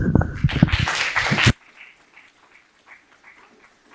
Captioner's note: applause